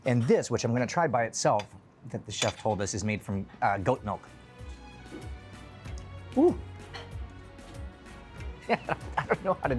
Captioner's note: laughing